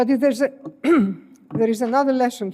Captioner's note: clears throat